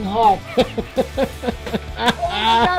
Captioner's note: laughing